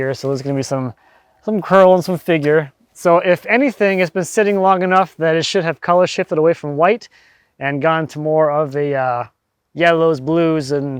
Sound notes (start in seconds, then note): none